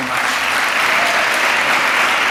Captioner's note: applause